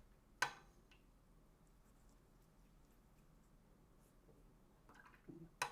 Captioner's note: silence